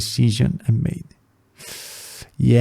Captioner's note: inhale